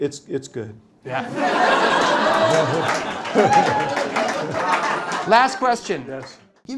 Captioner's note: laughter